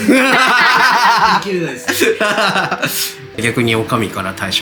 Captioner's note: laughs